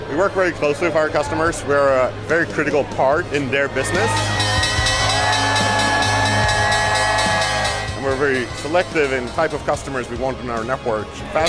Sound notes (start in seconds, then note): 4.1 bell ringing; 5.6 people cheering